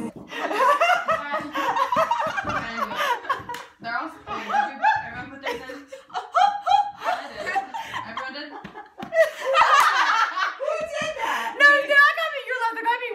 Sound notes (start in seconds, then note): 0.1 laughter; 4.4 mimicking laughter; 7.4 more laughter; 9.4 laughter intensifies